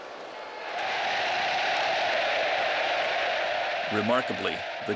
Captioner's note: crowd cheering